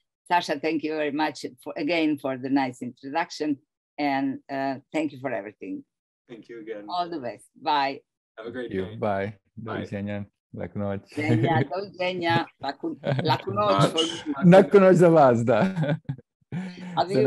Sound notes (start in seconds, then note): 9.6 laughs; 9.6 non-english speech; 12.6 non-english speech; 15.0 non-english speech; 15.2 laughs